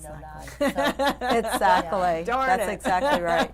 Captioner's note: laughing